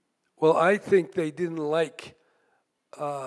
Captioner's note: none